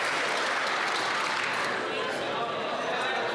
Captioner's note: applause